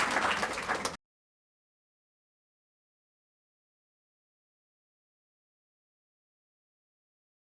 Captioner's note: applause; silence